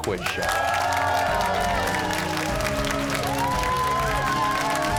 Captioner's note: cheers and applause